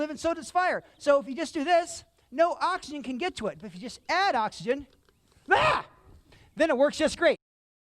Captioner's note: scream